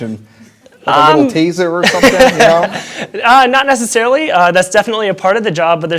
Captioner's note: chuckles